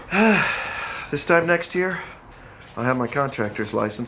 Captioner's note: sighs